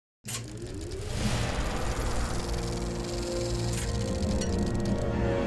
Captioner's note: projector Sound